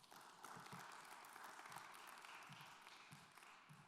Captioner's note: applause